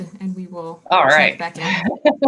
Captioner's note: laughing